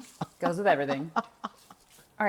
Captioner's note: laughter